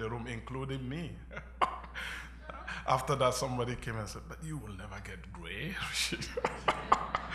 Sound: laughter

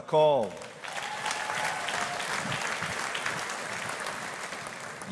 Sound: audience applauding

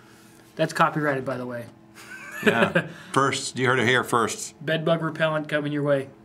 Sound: laughs

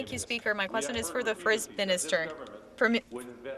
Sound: speaking French

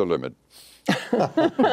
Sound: laughter

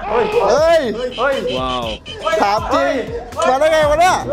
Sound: cheering

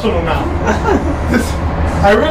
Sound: laughs

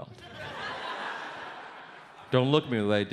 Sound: audience laughs

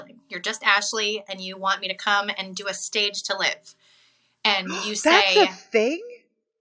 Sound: gasp

